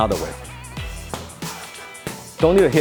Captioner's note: gloves hitting hands